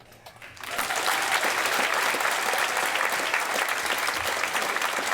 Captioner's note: applause